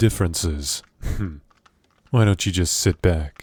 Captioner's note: laugh